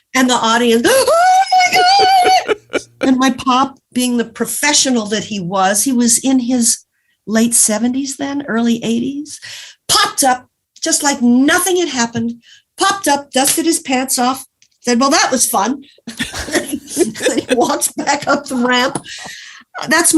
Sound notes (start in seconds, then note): 0.0 laughs; 1.4 laughs; 16.1 giggles